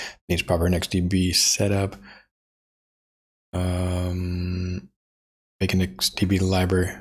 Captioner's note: blank Audio